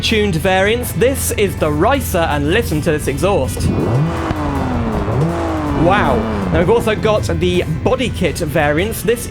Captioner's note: loud Exhaust Noise